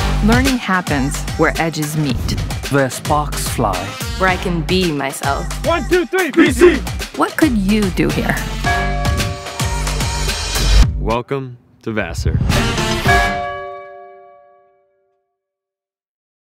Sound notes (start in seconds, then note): 8.6 bell rings; 9.5 upbeat music; 12.4 upbeat music; 13.0 bell rings